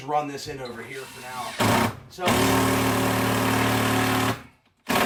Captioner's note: drill whirring